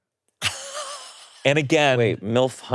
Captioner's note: laughing